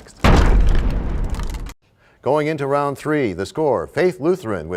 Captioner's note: crashing sound